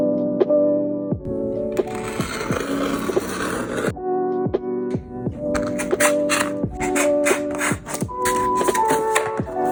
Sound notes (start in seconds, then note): 2.3 cardboard rasping